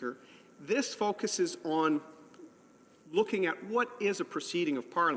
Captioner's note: none